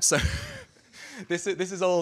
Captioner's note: laughter